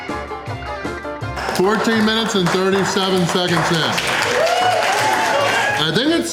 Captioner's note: crowd applause and cheering